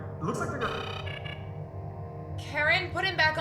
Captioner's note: negative alert